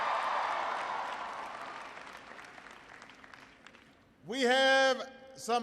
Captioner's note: applause